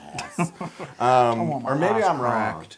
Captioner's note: laugh